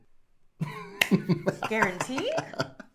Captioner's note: Jonathan laughing